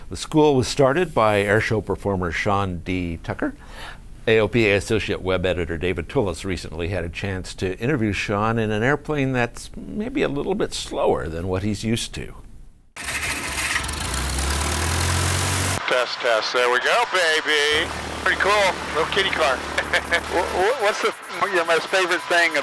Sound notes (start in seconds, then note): 12.9 Lycoming engine whirs to life